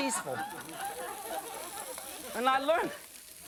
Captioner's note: audience laughing